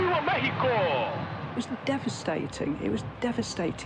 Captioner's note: in English